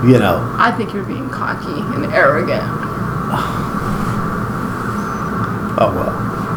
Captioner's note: sighs